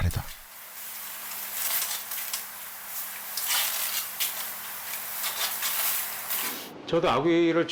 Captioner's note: sound of stir-frying anglerfish stew on high heat